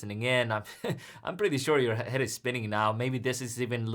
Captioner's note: laughs